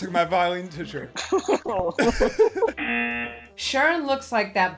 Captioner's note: both laugh; buzzer